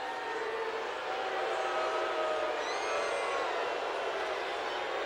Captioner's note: crowd boos